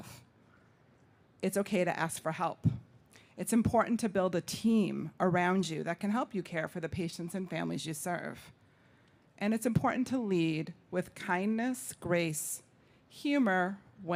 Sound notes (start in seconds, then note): none